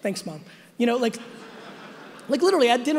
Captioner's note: audience laughing